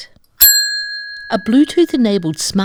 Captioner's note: bell rings